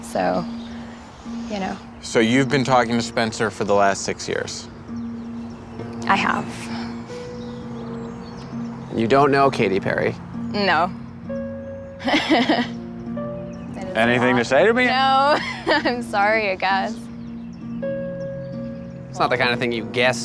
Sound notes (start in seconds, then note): 12.0 laughing; 17.3 slow tense music